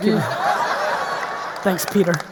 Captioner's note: audience laughing